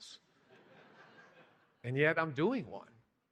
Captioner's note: laughing